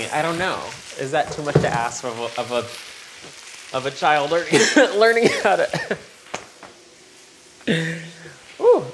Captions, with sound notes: I don't know. Is that too much to ask of a child [coughs] learning [coughing] how to-- [laughing] Ooh!